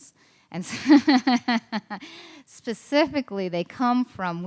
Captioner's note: laughs